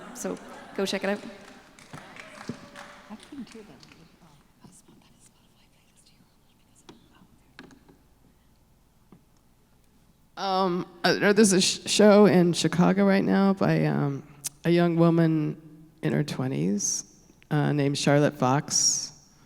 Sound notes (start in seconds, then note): 1.9 audience applause; 5.5 whispering away from mic